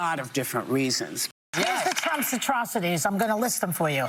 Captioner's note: applause